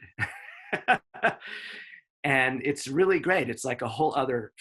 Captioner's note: laughs